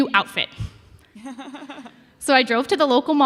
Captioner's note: laughing